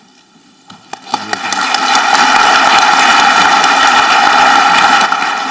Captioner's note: audience clapping